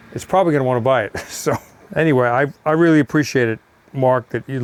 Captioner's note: chuckles